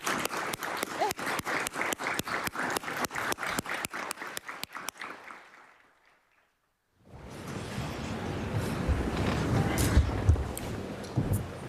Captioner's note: applause